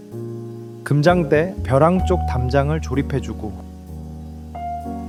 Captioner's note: speaking in foreign language